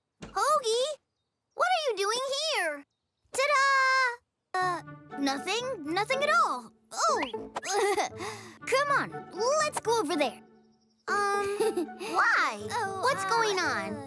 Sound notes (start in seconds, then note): 7.7 chuckles nervously; 11.2 chuckles